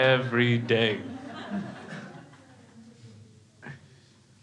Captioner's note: crowd laughs